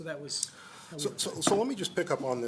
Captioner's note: informal talk